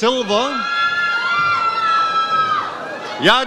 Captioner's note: audience cheers